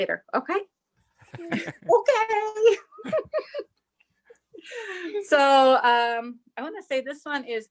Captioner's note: laughs